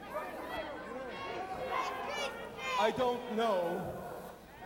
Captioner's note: crowd chatter